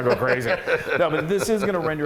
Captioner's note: laugh